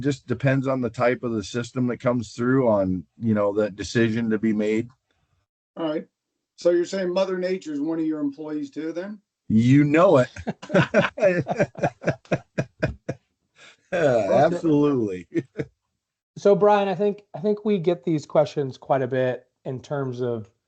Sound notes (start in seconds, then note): 14.8 laughter